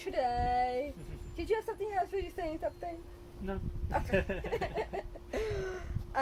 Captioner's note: laughs